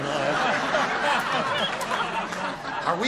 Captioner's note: laughter